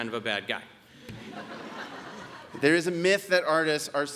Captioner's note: audience laughs